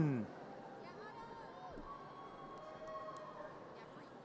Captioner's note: audience cheers